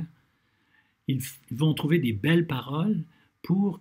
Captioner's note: translating in French